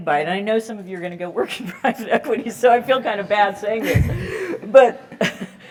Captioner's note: laugh